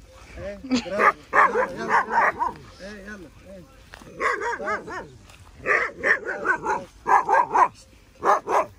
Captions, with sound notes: [Arabic] Yes, bravo. Let's go, let's go! [Arabic] Yes, let's go, yes. [Arabic] It's okay [Arabic] It's okay, it's okay.